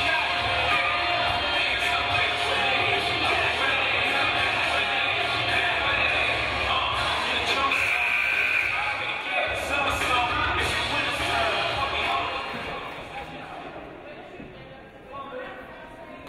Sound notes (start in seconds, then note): 7.6 game buzzer buzzes